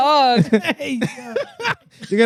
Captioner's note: laughing